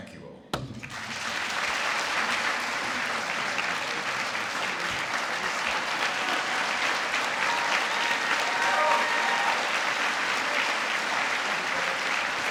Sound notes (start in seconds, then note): 0.8 applause